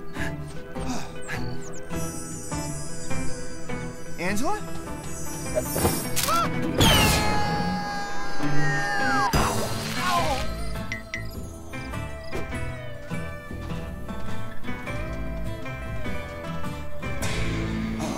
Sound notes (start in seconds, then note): 2.1 sparkling; 6.7 zipping; 7.5 yelling; 8.8 thud